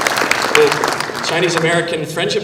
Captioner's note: applause